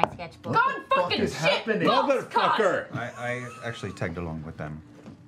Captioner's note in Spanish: gritando